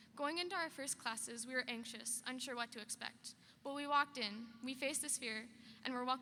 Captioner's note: none